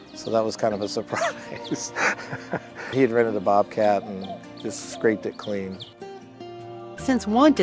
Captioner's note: laughter